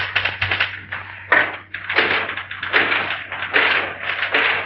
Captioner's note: rattling